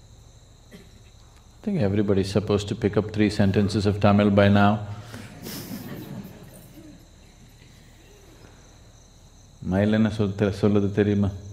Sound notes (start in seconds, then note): 0.0 speaks in Tamil; 5.2 laughs; 5.9 speaks in Tamil